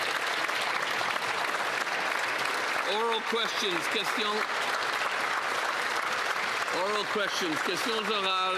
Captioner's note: applause